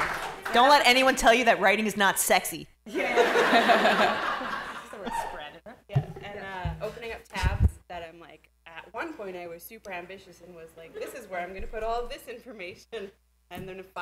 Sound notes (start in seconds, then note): 2.9 laughter